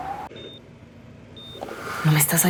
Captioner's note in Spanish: Sonido del monitor